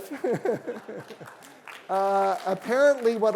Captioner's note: laughing; applause